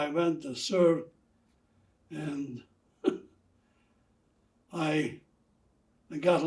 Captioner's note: laughing